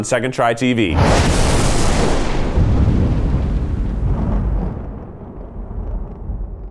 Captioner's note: thunder crashes